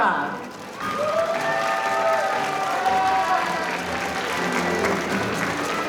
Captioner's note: audience applauding